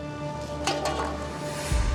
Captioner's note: can clanking